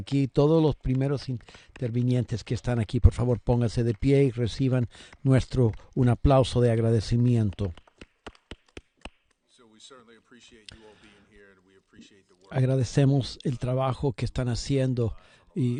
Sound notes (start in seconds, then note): 2.5 applause